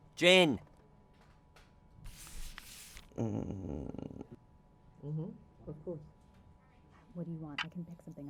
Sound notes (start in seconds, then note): 2.2 paper stack shifting; 3.1 angry groaning; 7.6 clock ticking